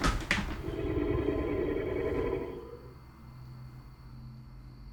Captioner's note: werewolf breathing